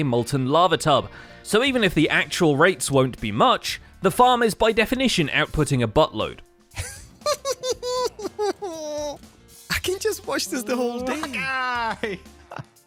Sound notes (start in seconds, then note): 6.7 mischievous giggle